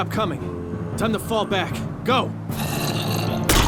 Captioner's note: zombie moans